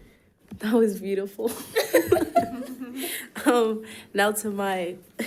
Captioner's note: laughs; laughs